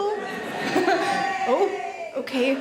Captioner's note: woman cheers